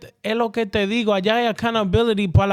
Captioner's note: speaking In Foreign Language